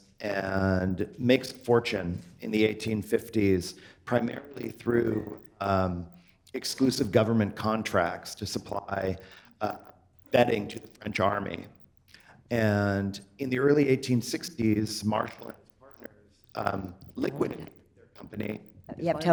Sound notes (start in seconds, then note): none